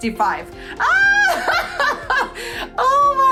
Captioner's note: laughing